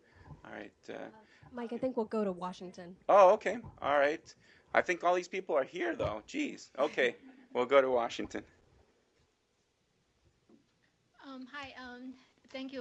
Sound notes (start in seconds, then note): 6.8 laughter